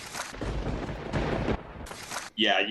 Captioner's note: thunder crackles